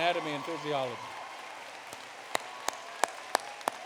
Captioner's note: applause